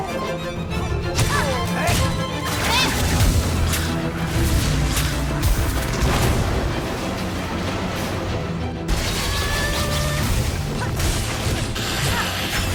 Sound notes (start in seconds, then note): 0.1 thuds and groans; 6.9 grunts